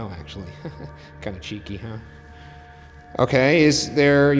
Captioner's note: chuckles